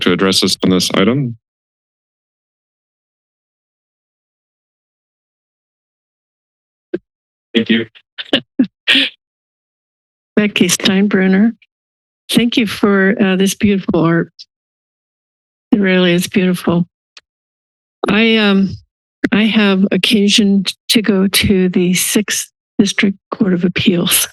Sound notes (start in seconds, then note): 2.7 silence; 8.2 chuckling